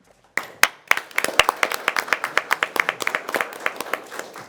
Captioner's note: members applauding